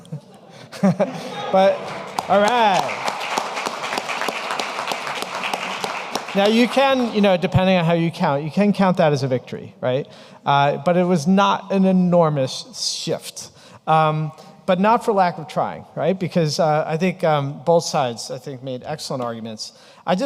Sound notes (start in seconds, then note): 3.9 audience applauding